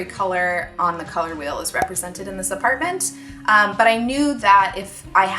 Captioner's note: cork pop